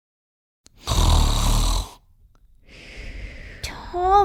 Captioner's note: snoring